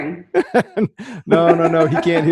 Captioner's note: laughing